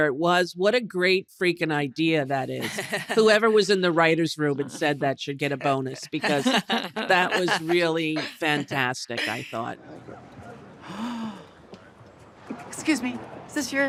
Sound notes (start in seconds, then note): 10.8 gasps